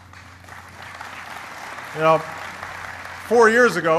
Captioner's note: applause